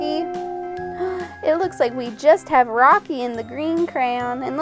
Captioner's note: gasps